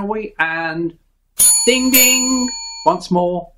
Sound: ding ding

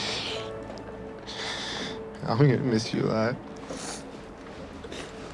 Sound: voice breaking

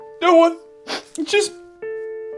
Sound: sad music; crying

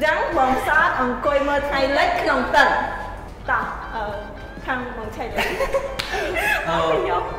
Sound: laugh

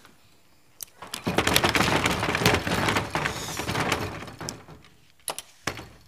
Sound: rattling

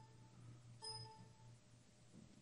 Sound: computer beep

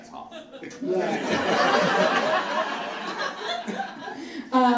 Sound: audience laughs

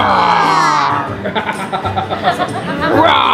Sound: laughs

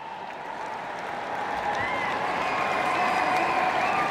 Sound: A crowd cheers

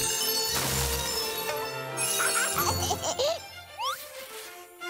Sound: laughing

